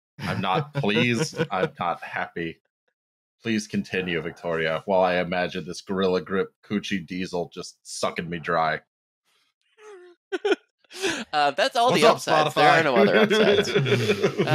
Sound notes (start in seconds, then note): 10.3 laughs; 11.8 laughs